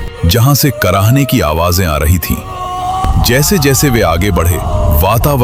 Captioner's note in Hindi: चीखने की आवाज़